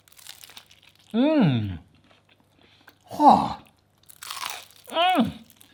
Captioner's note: scoffs